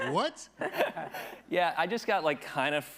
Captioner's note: attendees laughing